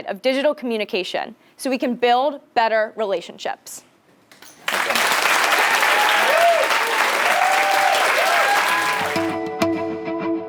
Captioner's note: applause